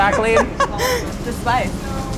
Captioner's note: laughs